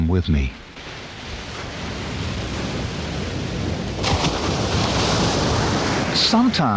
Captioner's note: waves crashing; waves crashing continues